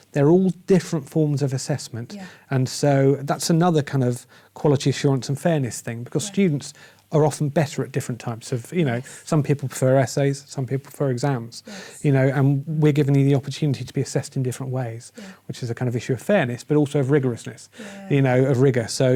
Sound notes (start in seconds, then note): none